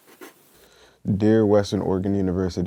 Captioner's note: sound of pencil writing